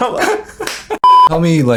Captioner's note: beep